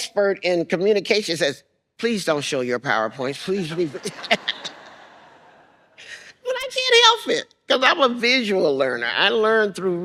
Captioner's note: laughs